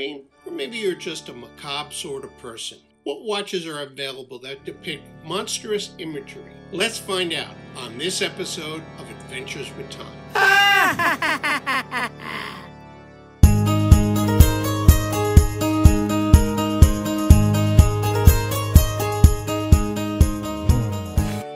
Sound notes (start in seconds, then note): 10.3 creepy laughing; 13.4 music Intro